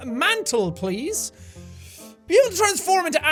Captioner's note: inhale